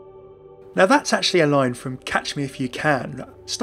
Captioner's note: voiceover